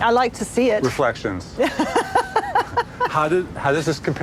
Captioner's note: laughing